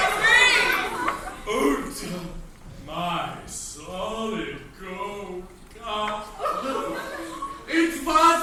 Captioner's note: crowd reacts verbally; sobs